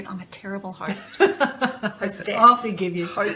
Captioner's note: laughter